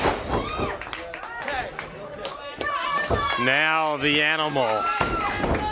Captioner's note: crowd chatter